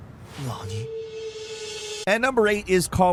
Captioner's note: Masayoshi speaks in foreign language